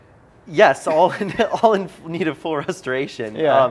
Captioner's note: laughs